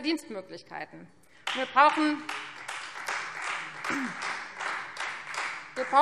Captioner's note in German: Beifall Freie Demokraten